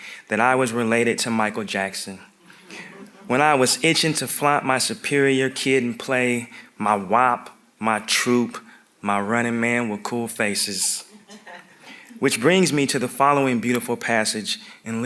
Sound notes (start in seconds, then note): 11.1 audience members chuckling